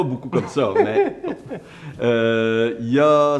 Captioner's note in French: rires